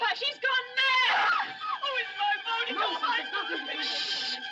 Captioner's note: screams